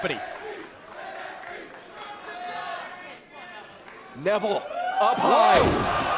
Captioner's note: crowd cheering